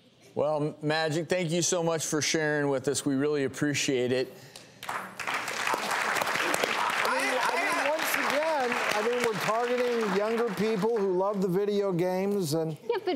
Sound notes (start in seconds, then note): 4.8 audience applause